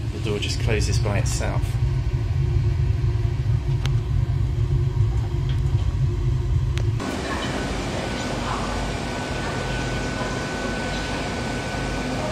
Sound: train noise

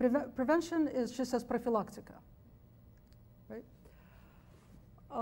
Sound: speaks foreign language

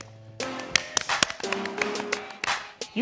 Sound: applause

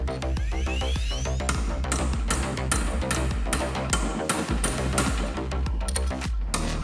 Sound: background music swells; metal tapping

